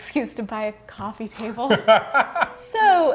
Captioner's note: laughing